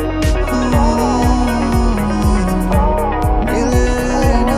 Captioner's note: Humming